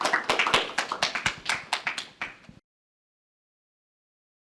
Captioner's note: applause